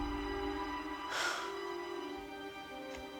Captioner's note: sighs